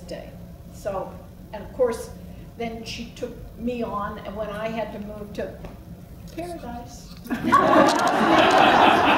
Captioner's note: laughs